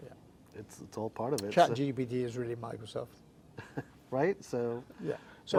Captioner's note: chuckling